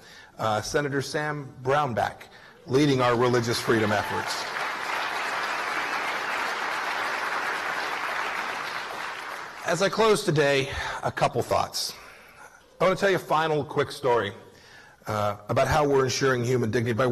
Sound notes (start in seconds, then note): 5.1 applause